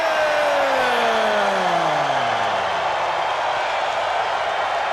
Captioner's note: crowd cheering